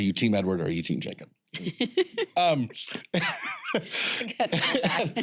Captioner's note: all laugh